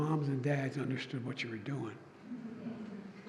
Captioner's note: laughter